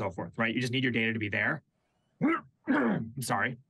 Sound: coughs

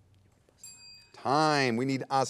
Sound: bell dings

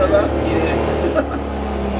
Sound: laughing

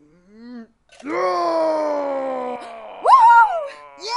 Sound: war cry

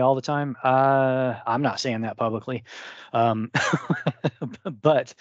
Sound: laughs

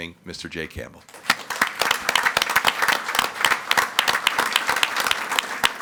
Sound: audience clapping

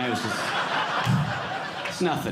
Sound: audience laughing

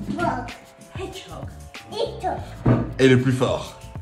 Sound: mom speaking English

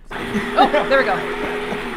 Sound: ice cream maker whirring

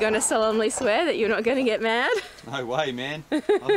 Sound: laughs

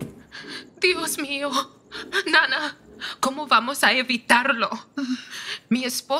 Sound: footsteps descending; crying

